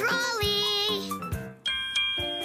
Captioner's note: ding ding